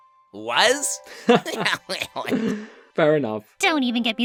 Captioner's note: laughing